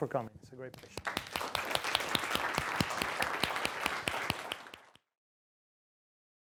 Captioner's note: applause